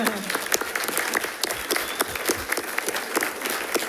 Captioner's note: audience applauds